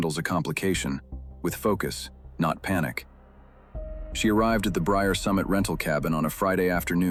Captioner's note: tv newsroom tone